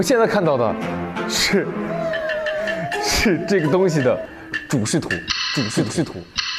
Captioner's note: laughing just thinking about what to say